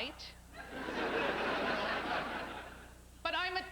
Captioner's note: laughter